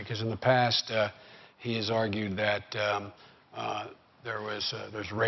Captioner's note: none